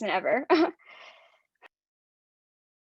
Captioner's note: laughs